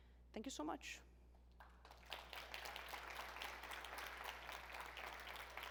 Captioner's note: applause